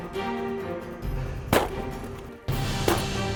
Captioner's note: gun shot